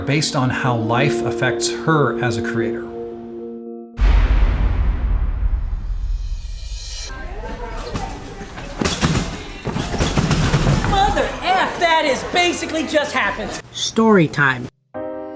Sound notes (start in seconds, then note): 4.0 explosion; 8.6 trampoline bangs; 15.0 emotional music